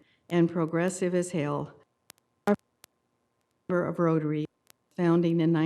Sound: audio cutting in and out

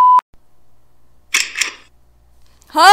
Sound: door opening sfx

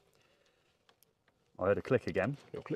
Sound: connector clicks

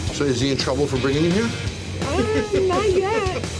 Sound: laughs

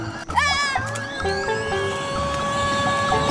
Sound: screaming

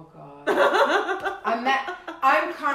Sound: laughing

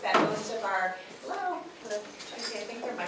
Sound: door opening

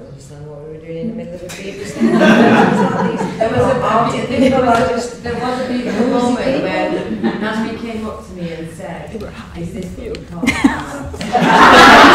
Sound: laughter

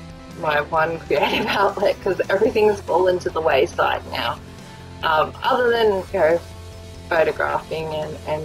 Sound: laughs

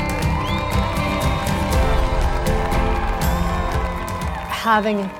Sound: applause

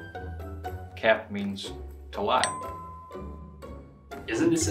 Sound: bell dings

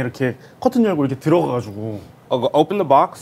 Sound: in Korean

